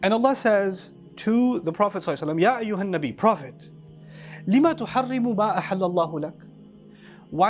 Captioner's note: Arabic